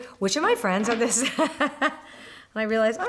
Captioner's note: laughs